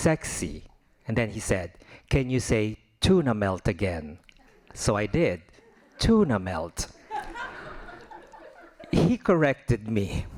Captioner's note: laughing